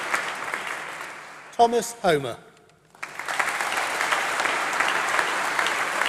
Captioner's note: applause